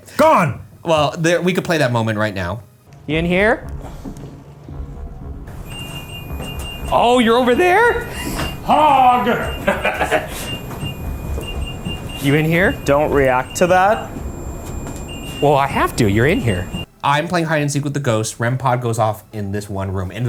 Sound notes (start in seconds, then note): 5.8 REM Pod beeping; 8.0 laughs